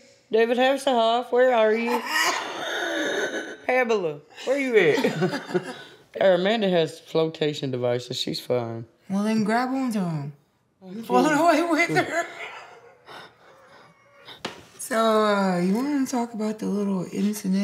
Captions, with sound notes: David Hasselhoff, where are you? Pamela, where you at? Our Amanda has flotation devices. She's fine. Well then grab on to them. Float away with her. [LAUGHTER] So you want to talk about the little incident?